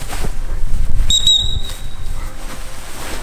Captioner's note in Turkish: düt düt